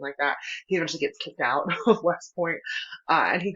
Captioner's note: laughter